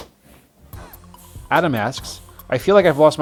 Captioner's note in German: Voice-over